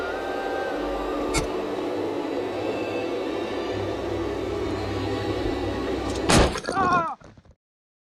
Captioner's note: explosion